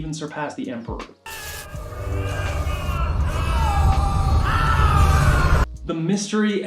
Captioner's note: electricity buzzing